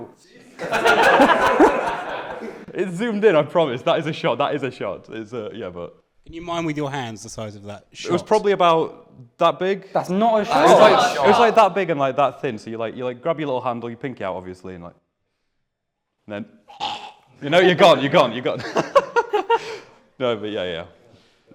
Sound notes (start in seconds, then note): 0.4 laughter; 16.7 gargles; 18.5 laughter